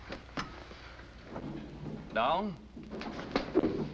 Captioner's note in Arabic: تعليق صوتي